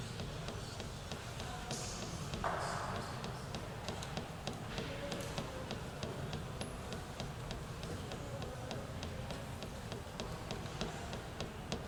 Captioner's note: tapping noises